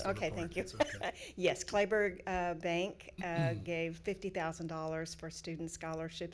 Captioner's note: chuckling